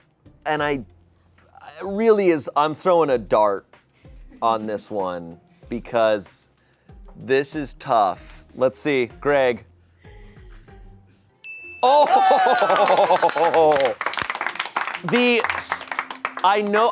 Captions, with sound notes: And I, really is, I'm throwing a dart on this one because this is tough. Let's see. Greg. (bell dings) Oh! (chuckles) (audience applauding)